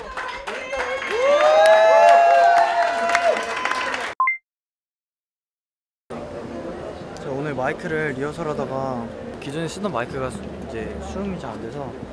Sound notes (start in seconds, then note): 0.0 the staff cheers them on as well